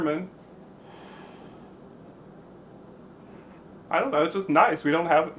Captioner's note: Irene exhales